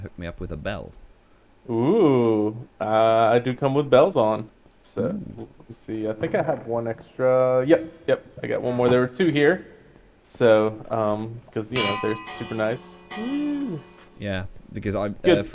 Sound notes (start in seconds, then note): 11.7 rings bells